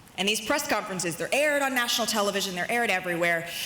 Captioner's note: none